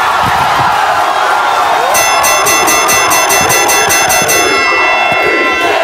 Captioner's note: boxing bell ringing